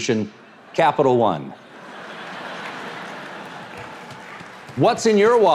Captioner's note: audience laughs